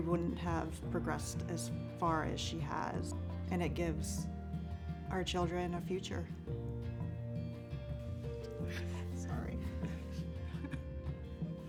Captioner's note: crying